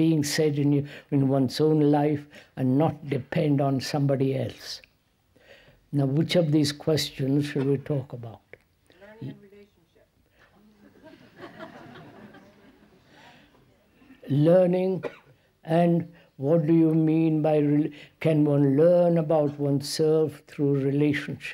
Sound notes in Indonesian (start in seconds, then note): 10.6 Tertawa